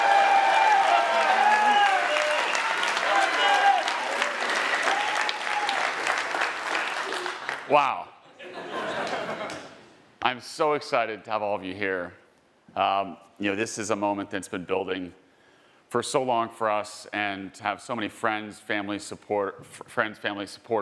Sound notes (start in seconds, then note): 0.0 attendees applauding and cheering; 8.3 attendees laughing